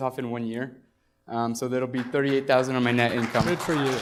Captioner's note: applause